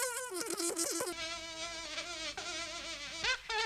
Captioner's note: sound of insect buzzing; fly buzzing